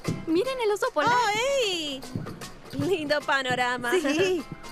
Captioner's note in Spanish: risas